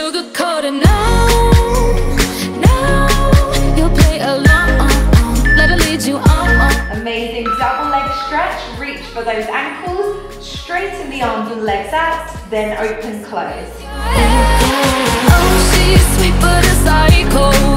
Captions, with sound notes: (alarm beeping) Amazing, double leg stretch. Reach for those ankles. Straighten the arms and legs out, then open, close.